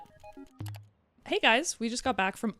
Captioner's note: computer mouse clicks